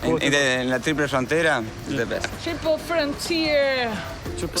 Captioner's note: upbeat Music; speaking In Foreign Language